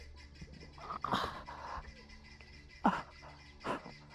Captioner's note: Arawn groaning